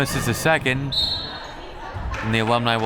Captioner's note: whistle